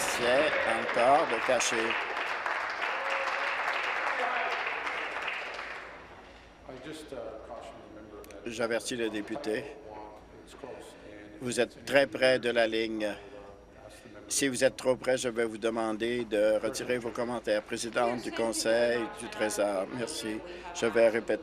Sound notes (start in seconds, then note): 2.8 applause